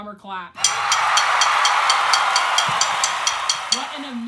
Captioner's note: applause